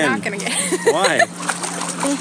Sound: laughs

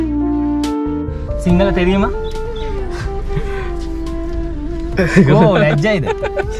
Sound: In tamil

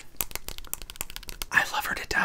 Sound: nails tapping

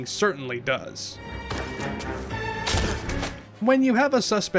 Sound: whack

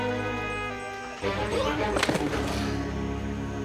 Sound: thud!

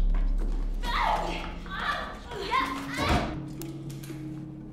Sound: screaming

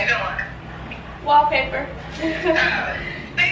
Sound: laughs

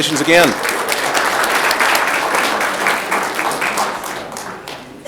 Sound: audience clapping

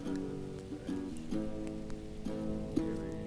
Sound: none

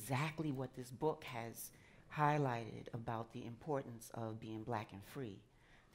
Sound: none

